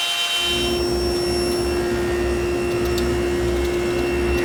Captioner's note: saw whirring